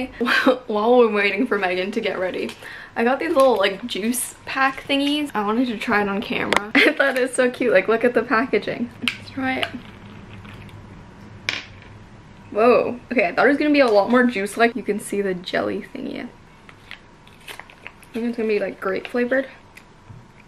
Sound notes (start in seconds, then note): 17.2 bottle crinkles